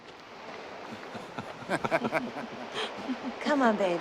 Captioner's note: cyril and hugh laugh